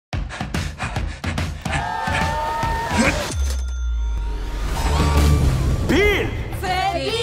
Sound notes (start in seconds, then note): 0.1 upbeat music playing; 0.2 panting; 3.3 cash register dings; 4.4 crowd